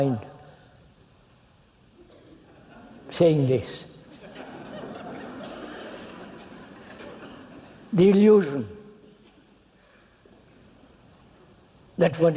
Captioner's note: laughter